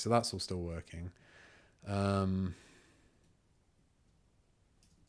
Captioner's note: silence